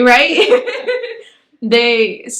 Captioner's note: both laugh